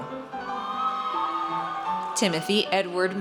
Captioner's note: audience cheers